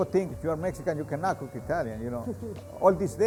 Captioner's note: giggles